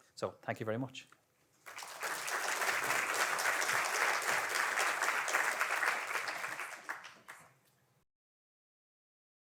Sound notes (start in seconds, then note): 1.6 audience applauding